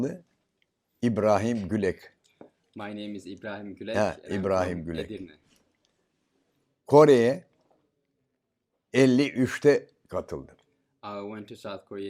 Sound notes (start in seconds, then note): 7.5 foreign language